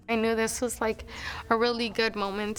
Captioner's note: sniffles